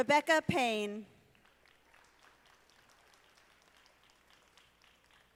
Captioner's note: audience applauding